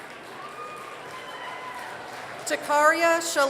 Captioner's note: applause